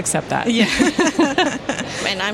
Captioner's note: laughter